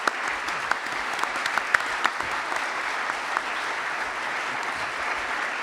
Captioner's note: applause